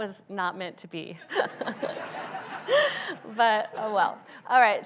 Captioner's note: laughs; audience laughs